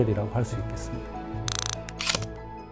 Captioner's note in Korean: 다이얼 소리